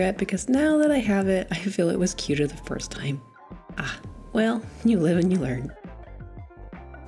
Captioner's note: chuckles